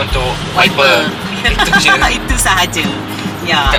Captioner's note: laugh